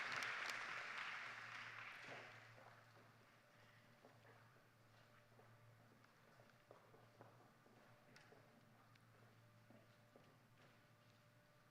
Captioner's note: applause